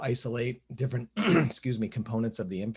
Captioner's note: throat clearing